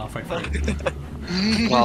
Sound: laughing

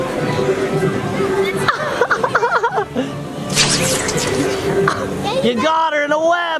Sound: laughing in background

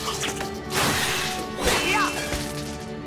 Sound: grunting

